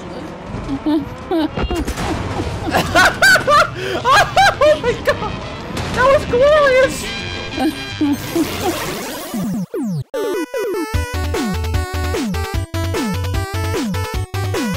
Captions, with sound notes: (laughs) (laughs) (laughs) (laughs) (laughs) (laughs) (laughs) (laughs) Oh, my god! Oh, my god! That was glorious! That was glorious! (laughs) (laughs)